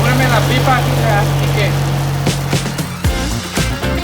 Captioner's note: tractor drowns out speaker; lively pop music